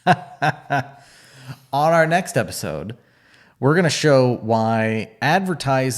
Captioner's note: laughs